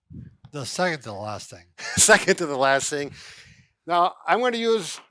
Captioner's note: chuckles